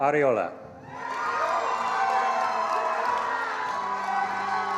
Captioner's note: attendees applauding